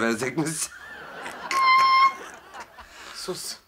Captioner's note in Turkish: Gülme efekti; Gülme sesi